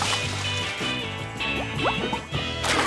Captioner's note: water splashes; bubbles popping